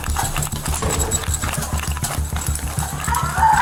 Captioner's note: metal clanking; footsteps pounding; suspect screaming